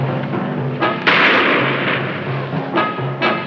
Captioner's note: shot firing